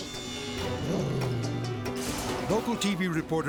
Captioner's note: energetic dramatic music; growling